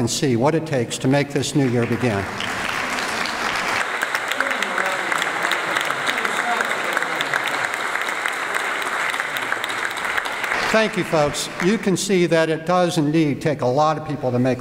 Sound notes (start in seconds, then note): 1.6 applause